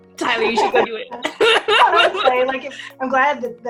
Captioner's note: laughs